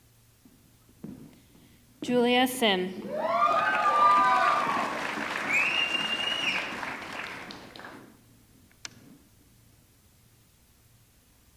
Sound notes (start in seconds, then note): 3.0 audience cheering; 3.0 audience clapping